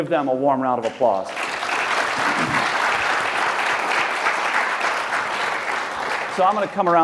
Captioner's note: applause